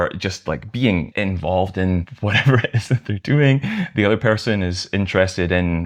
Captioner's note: laughter